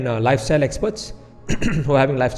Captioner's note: clears throat